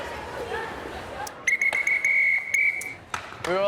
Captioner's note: whistle blowing